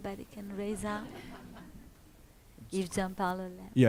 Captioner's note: audience laughs